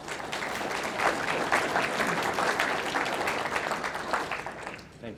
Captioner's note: audience applauding